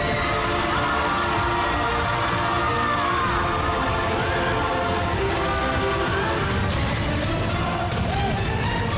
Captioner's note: crowd cheering